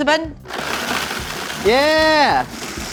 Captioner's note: blender whirring